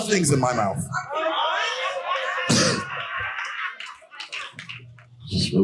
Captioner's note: audience cheering and laughing